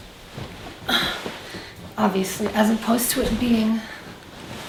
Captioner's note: ruffles blanket; grunts